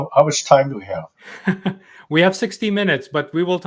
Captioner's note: laughs